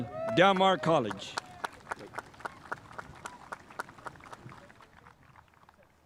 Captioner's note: spectators applauding